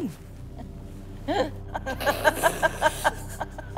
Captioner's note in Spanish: Risas